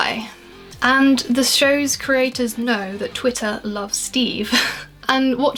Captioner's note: laughs